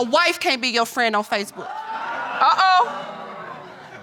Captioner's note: audience exclaims